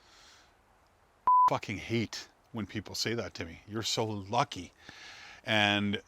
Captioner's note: beep